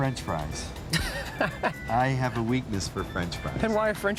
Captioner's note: laughing